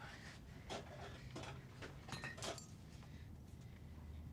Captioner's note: object clanking